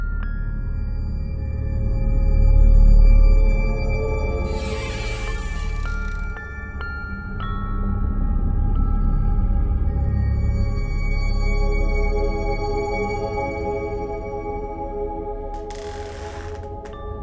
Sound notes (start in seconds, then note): 4.4 door creaks open; 6.4 eerie music; 15.5 door creaks